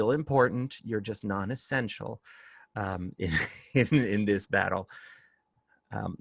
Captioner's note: laughter